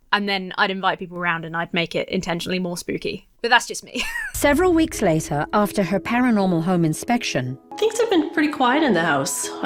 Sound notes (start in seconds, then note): 3.9 laughs